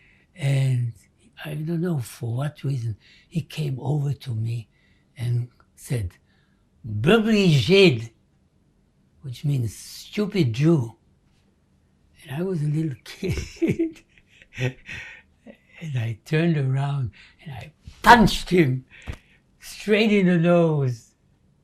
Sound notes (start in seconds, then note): 6.4 non-english; 12.8 laughing